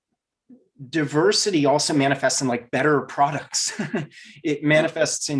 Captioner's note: laughs